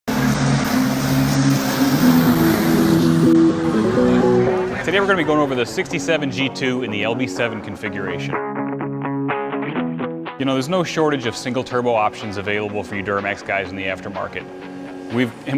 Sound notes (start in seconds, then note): 1.6 ApacheMAX roars past; 4.3 rock music